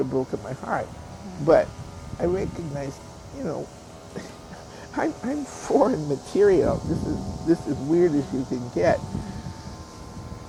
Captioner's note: laughs